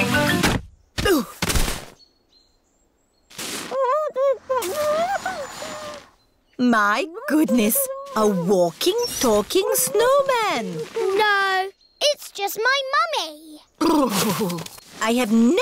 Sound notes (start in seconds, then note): 1.4 groans; 4.1 muffled groans